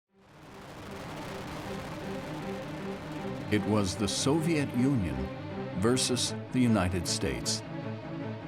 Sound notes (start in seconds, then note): 0.1 rocket propelling; 0.6 dramatic music